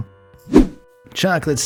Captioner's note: air whooshing